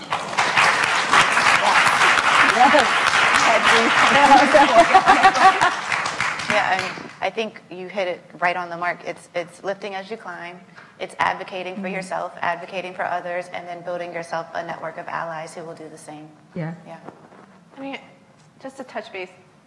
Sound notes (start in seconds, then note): 1.6 applauds; 3.4 laughs